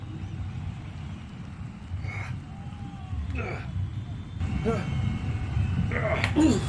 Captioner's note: pained grunting